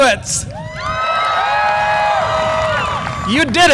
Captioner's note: graduates cheer